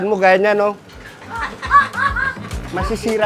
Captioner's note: laughter in the background